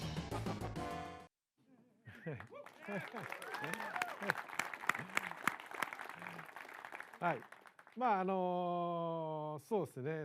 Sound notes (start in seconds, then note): 2.2 applause